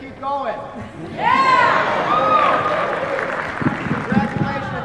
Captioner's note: cheers, applause